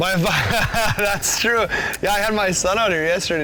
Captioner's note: laughing